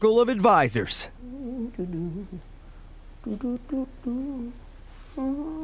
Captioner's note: humming quietly